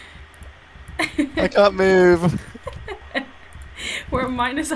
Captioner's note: just crying more